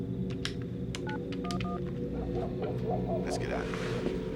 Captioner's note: phone beeping; phone dialing